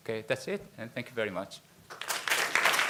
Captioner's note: audience applause